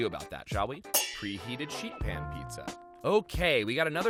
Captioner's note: metal clangs